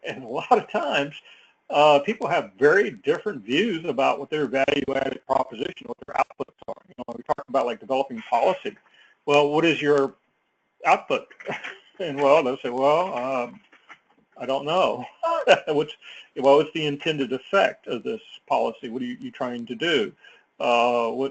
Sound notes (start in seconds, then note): 14.8 laugh